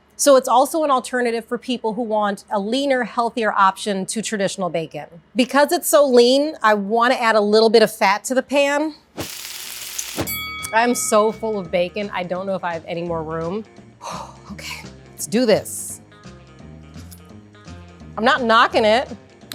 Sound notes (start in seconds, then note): 9.1 pan sizzling; 9.9 bell rings; 13.6 upbeat music; 16.2 upbeat music